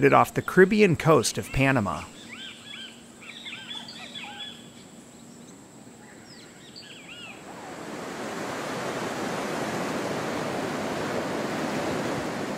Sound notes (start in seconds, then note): 7.1 tropical Beach Wave Sounds